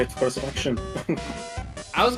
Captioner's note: laughter